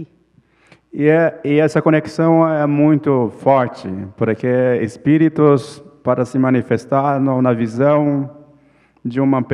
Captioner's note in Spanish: ponente habla en portugués